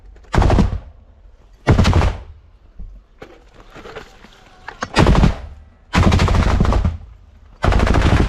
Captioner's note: Enemy firing at "Predator"